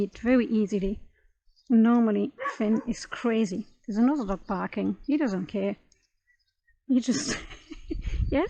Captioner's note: laughs